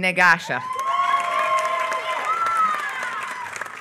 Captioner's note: applause